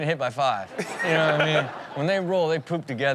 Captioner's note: audience laughs